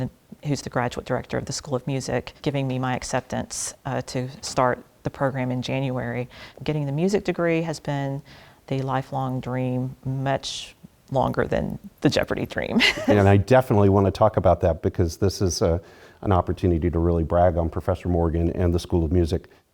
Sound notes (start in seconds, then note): 12.7 laugh